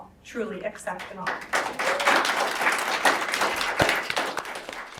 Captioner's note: audience claps